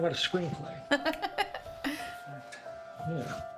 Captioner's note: Joan laughs